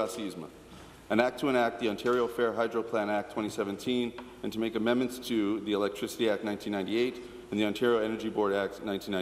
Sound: speaking in French

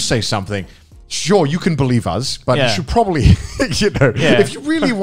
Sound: laughs

